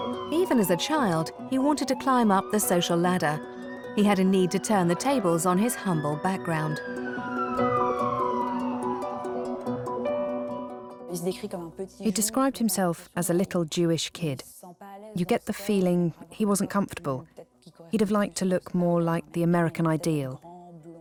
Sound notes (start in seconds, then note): 7.1 siren wails; 10.5 non-english speech